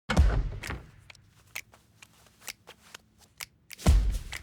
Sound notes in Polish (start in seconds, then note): 0.6 tykanie zegara